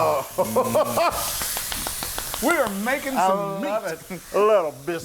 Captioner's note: laugh